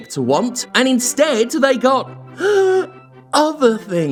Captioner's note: dramatic gasp